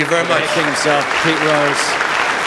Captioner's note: applause